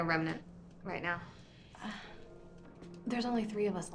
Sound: sighs

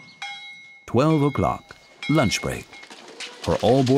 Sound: bell clanging

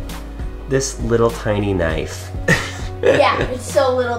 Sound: laughing

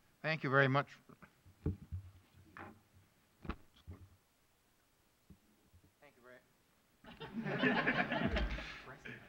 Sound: laughter

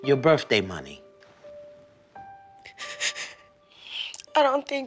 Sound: sobs

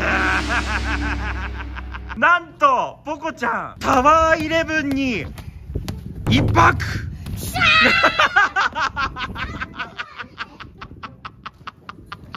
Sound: laughs

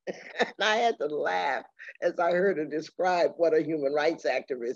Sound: laughing

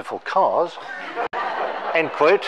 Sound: all laughing

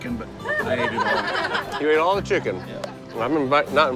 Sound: laughter

